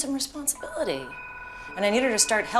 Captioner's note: phone rings